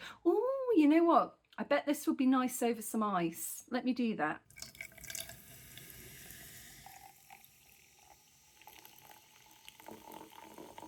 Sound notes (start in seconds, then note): 5.7 loud fizzing